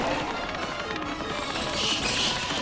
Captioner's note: chittering